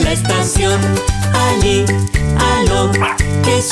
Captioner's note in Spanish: Ladridos